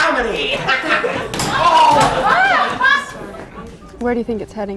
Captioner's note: laughs